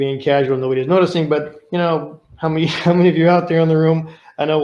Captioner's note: chuckling